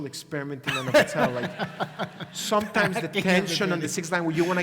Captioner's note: laugh